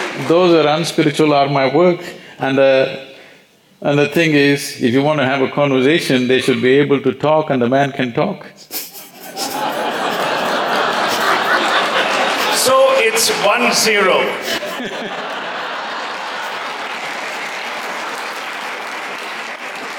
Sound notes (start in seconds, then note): 0.0 applause; 11.0 laughter/Applause; 18.3 laughter